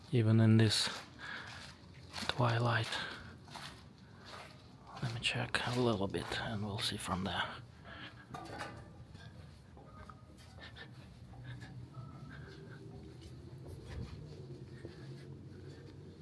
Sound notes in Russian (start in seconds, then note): 8.1 шаги